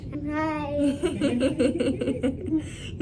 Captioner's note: all laughing